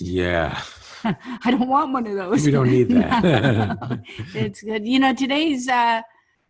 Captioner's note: laughing